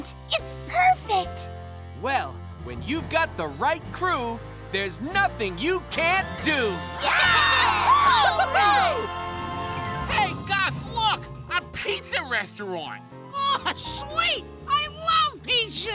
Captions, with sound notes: It's perfect. Well, when you've got the right crew, here's nothing you can't do! [cheering] Hey guys look, a pizza restaurant. Oh sweet, I love pizza!